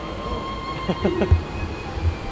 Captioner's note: excited laughing